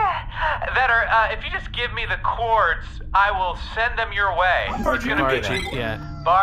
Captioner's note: nervous